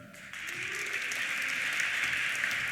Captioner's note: applause; cheers